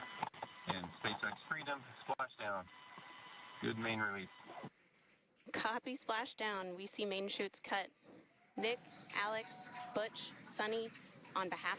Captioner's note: applause